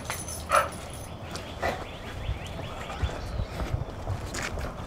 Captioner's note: birds chirping